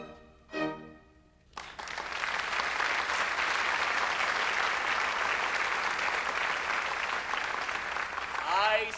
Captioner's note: applause